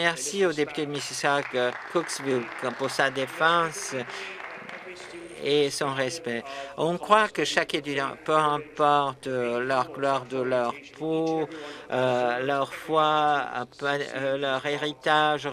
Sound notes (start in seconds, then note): 5.8 applause